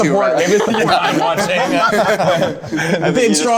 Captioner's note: group laughing